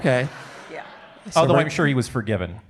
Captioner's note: audience laughing